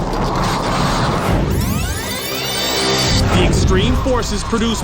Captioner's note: tape rewinding